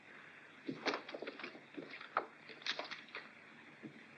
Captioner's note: clothes rustling